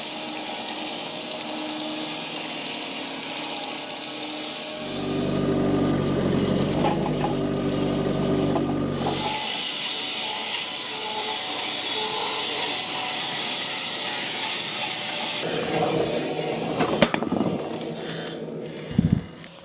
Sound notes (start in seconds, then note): 4.9 machinery rumbling; 9.3 planer buzzing